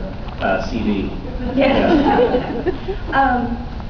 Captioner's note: laughing; laughs